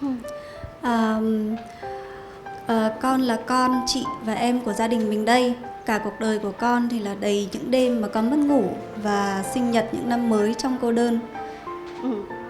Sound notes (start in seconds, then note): 0.7 woman translating to Vietnamese